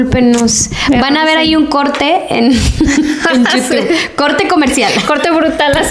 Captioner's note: laughs